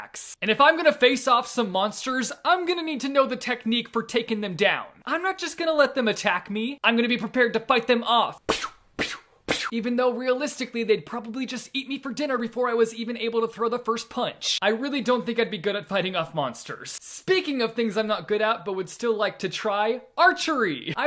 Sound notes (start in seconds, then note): 9.5 punching